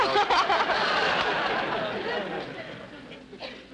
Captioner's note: audience laughter